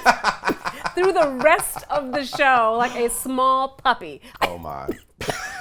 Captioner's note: coughs